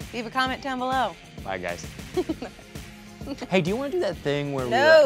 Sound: female host laughs

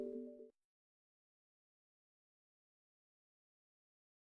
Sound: silence

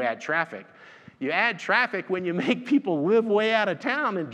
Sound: laughs

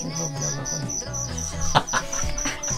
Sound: laughs

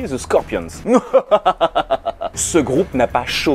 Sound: mouahaha

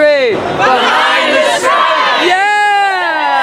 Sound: crowd

